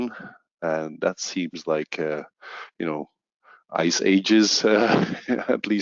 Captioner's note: laughs